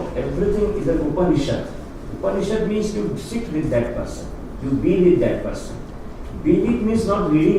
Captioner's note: non-English speech